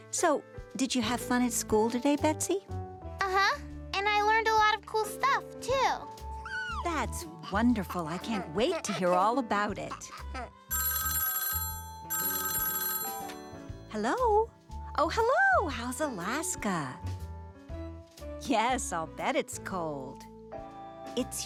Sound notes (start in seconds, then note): 5.0 cooing; 10.9 ringing